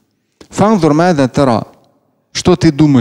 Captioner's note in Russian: Говорит на арабском